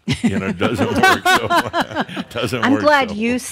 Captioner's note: chuckles; more laughter